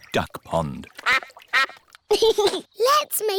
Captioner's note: quacking; giggles